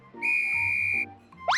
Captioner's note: tweet